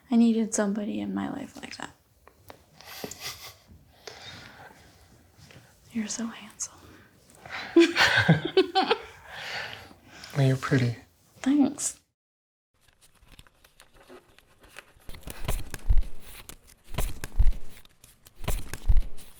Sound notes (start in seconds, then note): 7.5 laughing